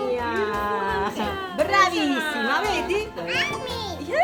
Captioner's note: speaking Italian